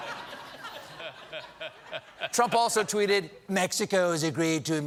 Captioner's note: laughter